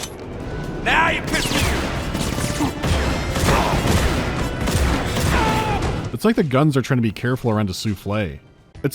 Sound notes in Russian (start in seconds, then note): 1.3 вялые, обрывистые выстрелы из дробовика